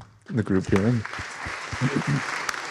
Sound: audience clapping

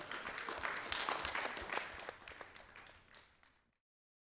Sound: audience applauding

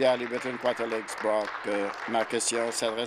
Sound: applause

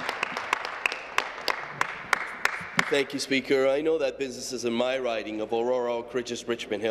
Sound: applause

